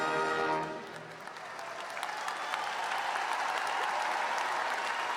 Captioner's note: audience applauding